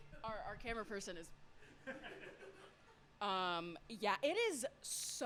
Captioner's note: laughter